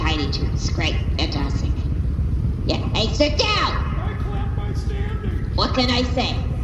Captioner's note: shouting